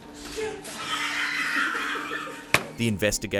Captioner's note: investigator laughs